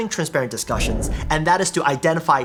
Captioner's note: whooshing sound